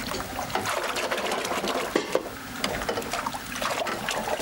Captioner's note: water sploshing